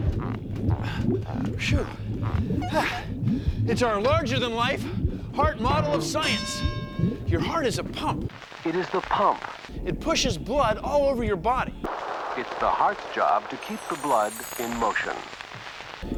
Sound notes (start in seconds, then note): 0.5 panting; 2.2 sighs